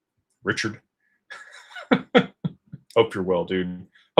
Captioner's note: laughter